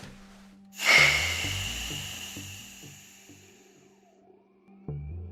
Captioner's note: hiss